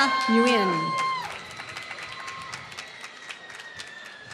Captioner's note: applause